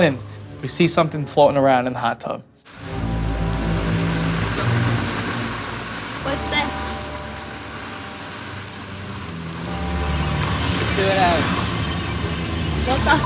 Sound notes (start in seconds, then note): 2.9 intense music; 2.9 water splashes